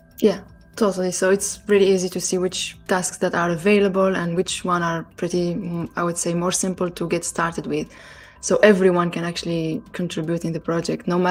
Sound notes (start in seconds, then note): none